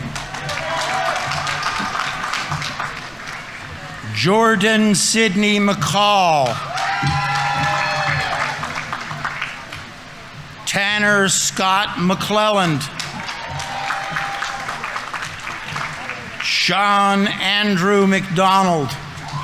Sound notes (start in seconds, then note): 0.0 audience applauding; 0.0 audience members cheering; 6.2 audience applauding; 6.9 audience members cheering; 12.6 audience applauding; 13.0 audience members cheering; 18.2 audience members cheering; 19.0 audience applauding